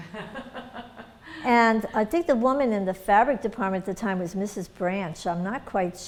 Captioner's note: laughter